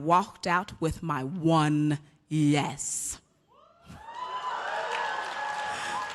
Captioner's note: cheers and applause